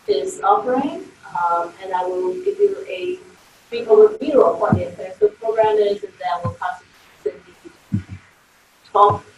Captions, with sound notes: And I will give you a brief overview of what the accessibility program is and then we'll talk (audio warps).